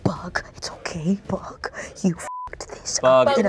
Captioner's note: beep